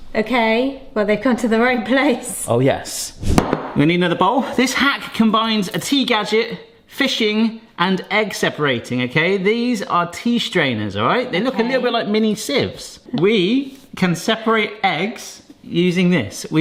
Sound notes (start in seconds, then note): 3.2 bowl thuds